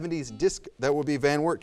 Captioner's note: buzzer buzzes